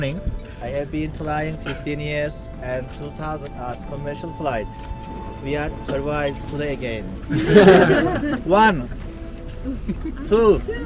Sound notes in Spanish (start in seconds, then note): 7.3 risas